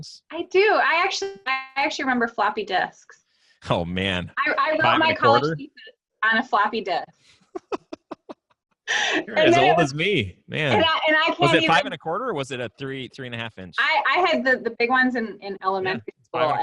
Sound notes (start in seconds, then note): 7.4 laughs